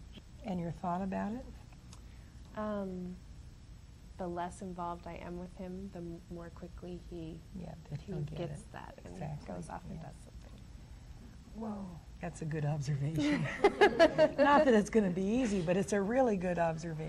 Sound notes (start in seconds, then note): 13.2 laughs